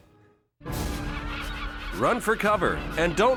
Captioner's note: dramatic music; birds squawking